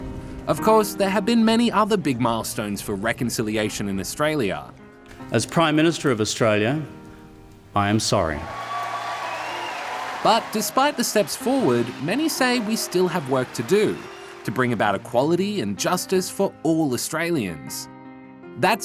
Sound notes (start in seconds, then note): 8.9 cheering and applause